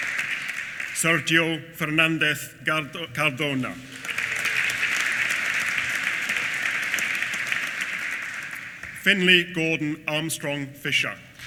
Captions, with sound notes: Sergio Fernandez Cardona. (APPLAUSE) Findlay Gordon Armstrong Fisher.